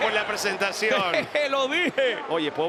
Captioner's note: laugh